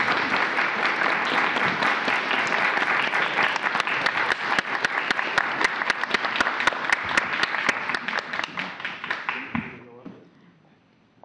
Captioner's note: applause